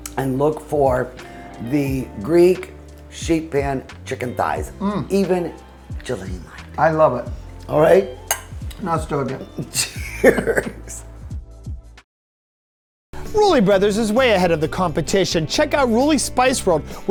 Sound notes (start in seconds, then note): 7.9 glasses chiming; 9.1 speaking in a foreign language; 9.7 both laughing